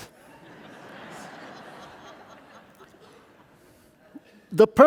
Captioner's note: audience laughing